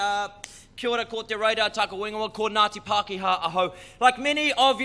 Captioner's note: speaking in foreign language